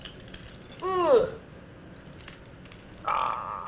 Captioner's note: grunting